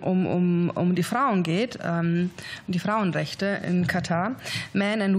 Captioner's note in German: liest auf Englisch